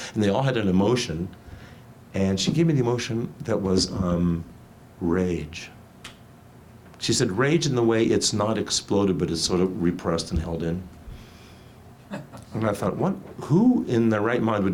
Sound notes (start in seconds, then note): 12.0 audience member chuckles